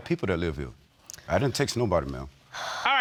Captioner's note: sighs